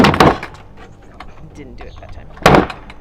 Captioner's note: lid thumps